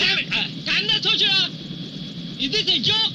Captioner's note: shouting in foreign language